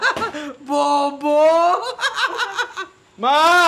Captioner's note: laughs